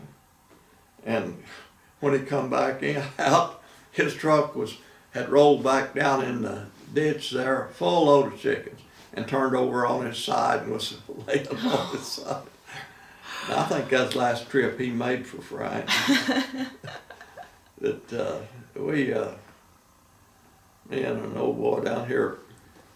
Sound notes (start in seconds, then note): 15.8 laughing